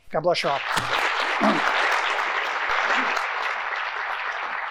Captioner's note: audience applauding